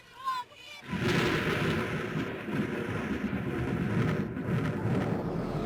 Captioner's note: explosion thundering